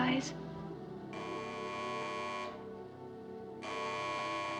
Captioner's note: phone Buzzing